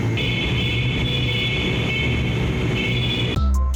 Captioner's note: more beeping